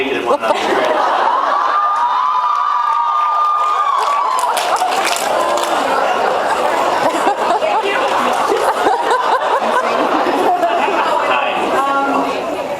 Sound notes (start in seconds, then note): 1.3 laughs, cheers; 2.6 cheers; 3.8 laughs